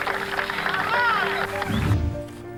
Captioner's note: cheering